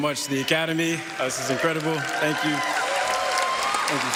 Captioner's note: applause